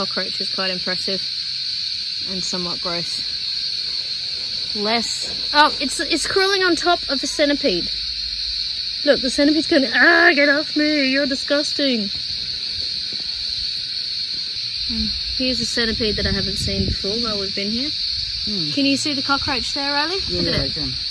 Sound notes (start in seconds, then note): 9.4 does centipede voice